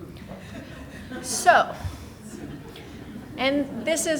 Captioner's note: people laughing